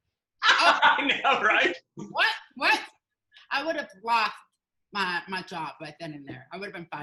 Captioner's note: laughing